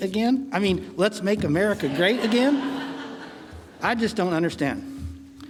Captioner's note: audience laughing